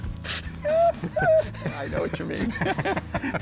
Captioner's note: both laughing